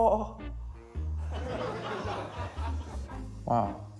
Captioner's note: laughter